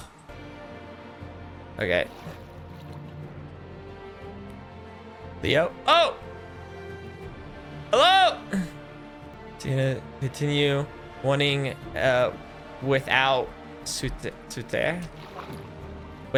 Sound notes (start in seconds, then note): 0.3 background music; 3.6 background music; 7.8 in Spanish; 15.4 Spanish